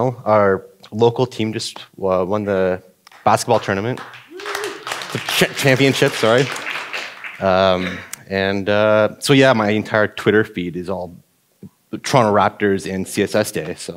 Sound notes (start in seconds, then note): 3.1 audience applauding